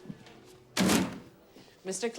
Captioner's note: papers thud